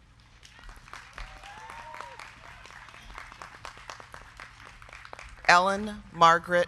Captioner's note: crowd clapping; crowd cheering